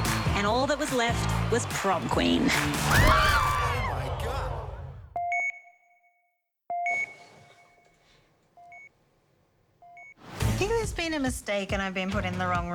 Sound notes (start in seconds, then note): 0.6 students screaming; 6.7 monitor beeping